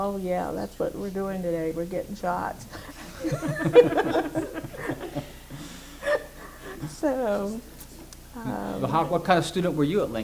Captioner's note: laughter